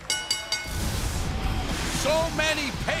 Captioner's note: bell ringing